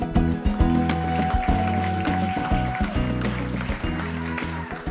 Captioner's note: applause